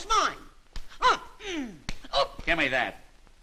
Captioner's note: slaps